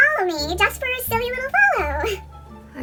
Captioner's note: high pitched